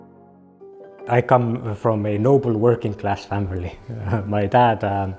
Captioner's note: chuckles